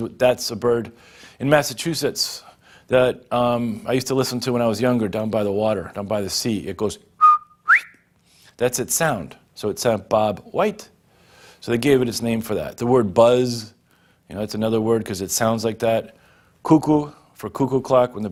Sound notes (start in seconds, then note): 7.2 whistles